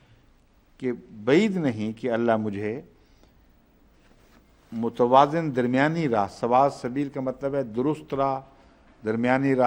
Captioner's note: Arabic